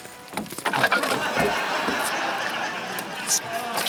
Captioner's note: laughter